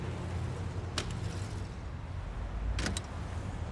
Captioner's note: coins clanging; phone clicks; phone thuds